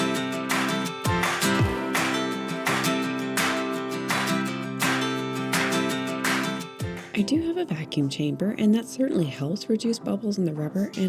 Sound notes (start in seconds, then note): 0.0 upbeat folksy music rises; 0.0 hands clap to music beat